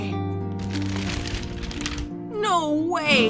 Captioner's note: frantic sketchbook page flipping